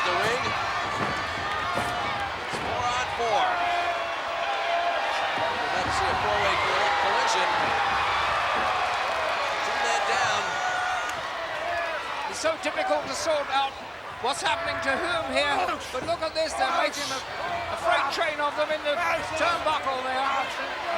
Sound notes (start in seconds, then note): 0.0 blows thudding; 0.1 wrestlers grunting; 6.5 body thudding; 6.5 footsteps plodding; 10.8 crowd cheering